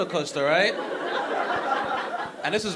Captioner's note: audience laughing